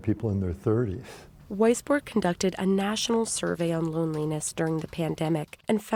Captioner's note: voice-over